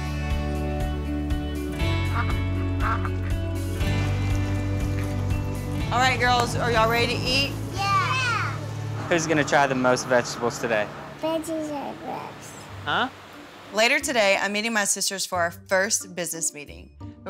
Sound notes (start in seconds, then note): 2.0 duck quacks